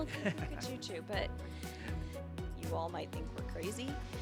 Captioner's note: laughter